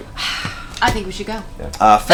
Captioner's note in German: seufzt